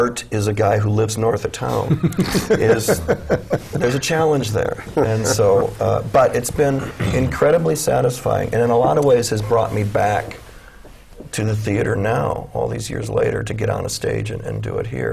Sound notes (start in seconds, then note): 1.8 chuckle; 6.8 clears throat